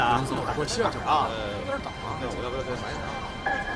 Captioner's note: telephone